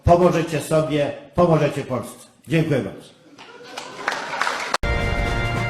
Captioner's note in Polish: Aplauz